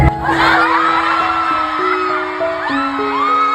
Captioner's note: they laugh